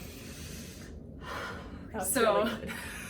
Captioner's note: big exhale